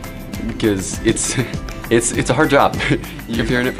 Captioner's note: laughs